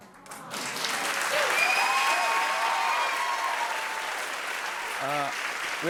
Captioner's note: cheers and applause